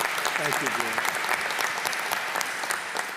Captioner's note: applause